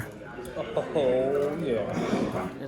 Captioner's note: laughs